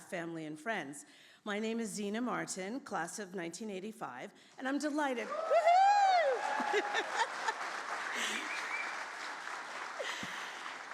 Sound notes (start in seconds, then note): 6.4 laughs; 6.8 audience cheers and applauds